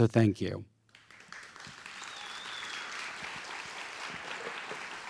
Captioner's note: audience applauding